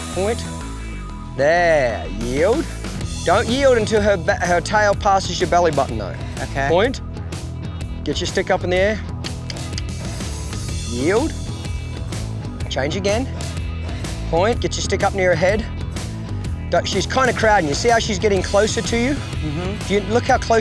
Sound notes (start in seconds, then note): 9.4 tongue clicks